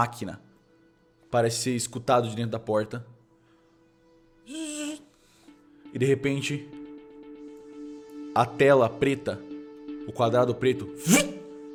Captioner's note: zzz